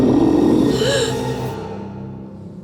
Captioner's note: gasps